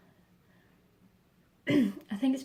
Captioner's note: clears throat